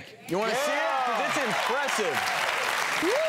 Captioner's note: cheers and applause